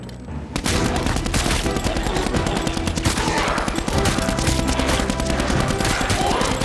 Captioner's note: triumphant music; gunshots popping